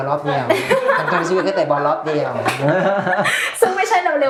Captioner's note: laughs